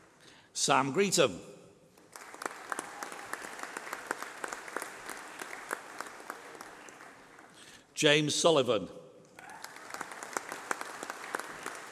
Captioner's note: applause